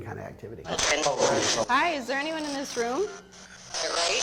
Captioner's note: spirit box voice